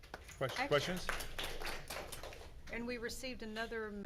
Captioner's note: crowd applauding